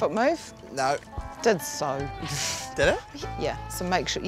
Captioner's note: chuckles